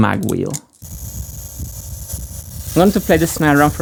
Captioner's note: air gun blowing